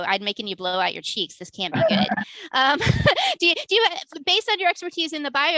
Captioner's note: laughs